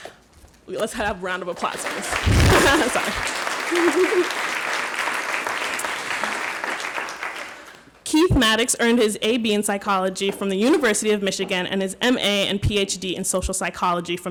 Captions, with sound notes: Let's have a round of applause, please. (audience applauds) (laughing) Sorry. Keith Maddox earned his AB in Psychology from the University of Michigan and his MA and PhD in Social Psychology